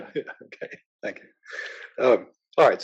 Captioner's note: laugh